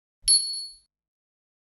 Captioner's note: bell dings